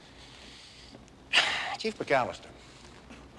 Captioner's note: exhales